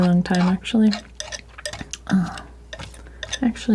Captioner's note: scraping